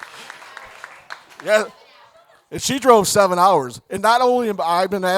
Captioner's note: audience applauding